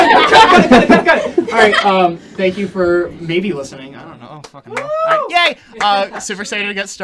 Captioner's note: group clapping and cheering